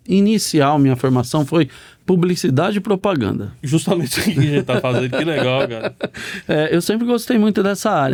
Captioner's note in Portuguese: risadas